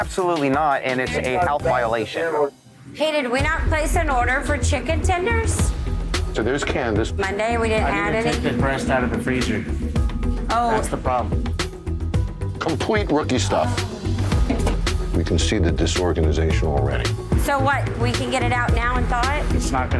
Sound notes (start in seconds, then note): 13.5 groans